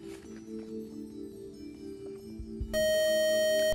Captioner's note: buzzer